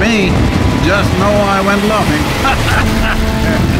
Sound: laughs

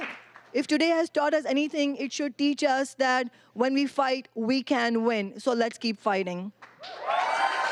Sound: applause; cheering

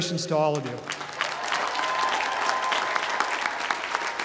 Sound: applause

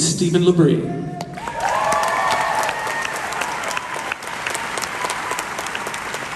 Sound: crowd cheers

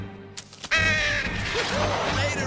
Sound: crow screech

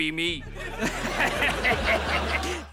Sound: laughing

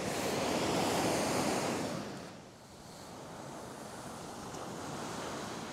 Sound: waves thrashing ashore

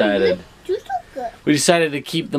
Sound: kid murmurs

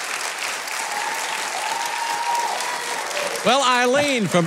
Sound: audience applauding; audience cheering

